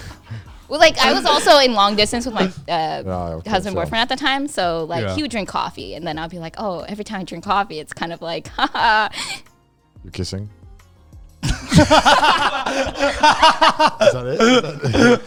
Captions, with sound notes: I was also in long distance with my husband boyfriend at the time. So like he would drink coffee and then I'll be like, "Oh, every time I drink coffee it's kind of like." (laughs) - You're kissing? (all laughing) - Is that it?